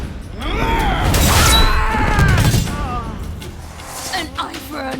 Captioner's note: growl; scream; slicing noise